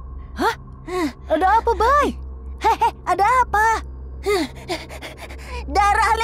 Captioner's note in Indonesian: terengah-engah